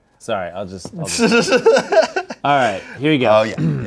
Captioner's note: laughs